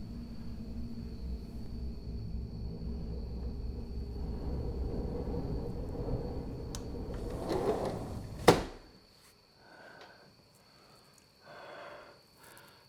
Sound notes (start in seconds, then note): 4.4 air whooshing; 7.0 door thuds; 7.3 door whooshing